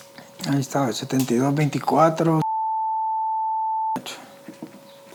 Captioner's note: beep